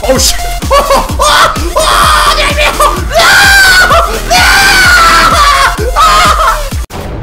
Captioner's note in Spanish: Grita y se rie